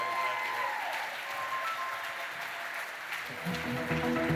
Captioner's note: cheering, applause